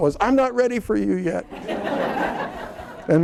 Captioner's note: laughter